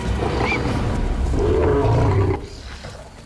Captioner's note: roars